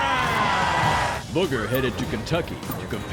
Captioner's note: crowd cheering